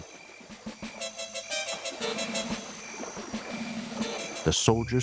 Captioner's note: water sloshing